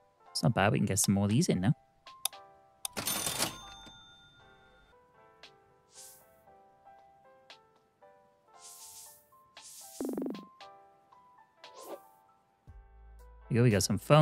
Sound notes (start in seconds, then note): 2.9 cash register dings